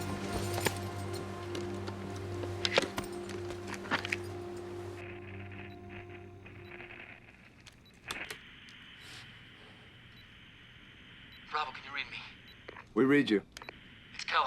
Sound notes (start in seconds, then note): 5.5 radio crackles with static